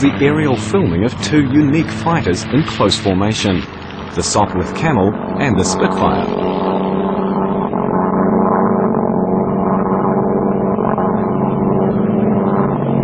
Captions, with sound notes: the aerial filming of two unique fighters in close formation, the Sopwith Camel and the Spitfire. [plane sounds]